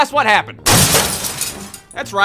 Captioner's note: thud! glass shatters